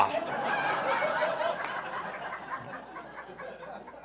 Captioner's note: audience laughing